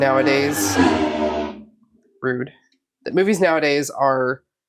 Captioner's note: loud vehicle goes by outside